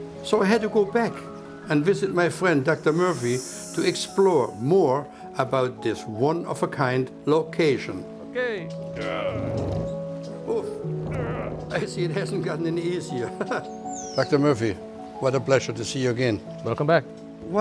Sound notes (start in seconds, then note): 9.0 wheel groans; 13.2 laughs